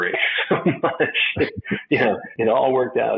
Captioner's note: chuckles